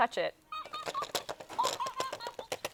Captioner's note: Elmo laughing